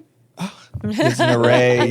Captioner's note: laughing